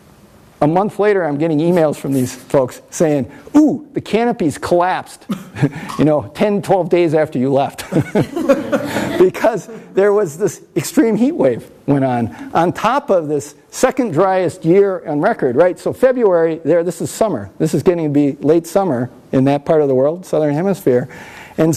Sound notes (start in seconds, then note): 7.8 everyone laughs